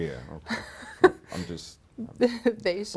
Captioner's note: laughs